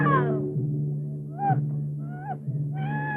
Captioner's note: crying